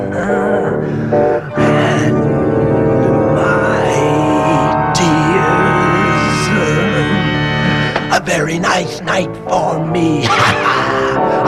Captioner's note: laughs; laughs